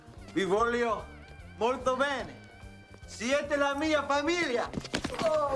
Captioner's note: Castellano speaks Spanish